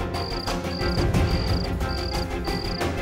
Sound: cricket chirping

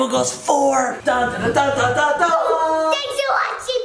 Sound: imitates triumphant music

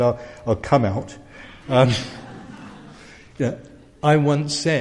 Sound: laugh

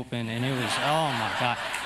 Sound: laughter

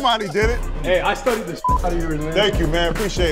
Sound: beep

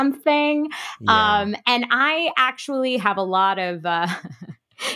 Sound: laughing

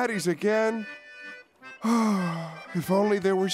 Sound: sighing

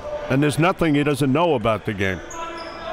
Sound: none

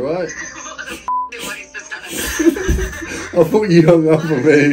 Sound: beep; laughs

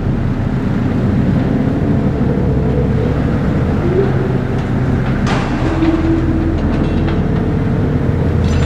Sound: harsh wind blowing

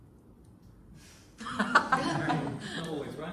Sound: laughter

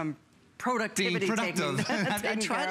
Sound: laughter

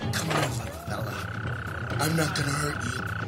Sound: frog croaking

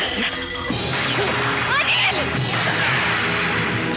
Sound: gunshot

